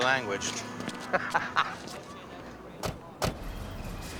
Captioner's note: laughs